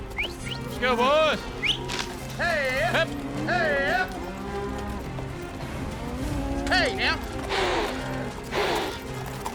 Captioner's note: whistling; calling cows